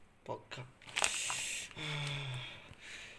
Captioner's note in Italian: sospiro serio